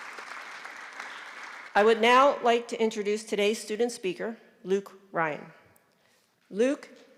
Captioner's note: applause